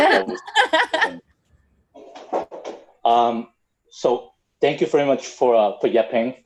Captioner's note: laugh